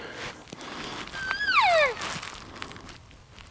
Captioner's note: caller cow calling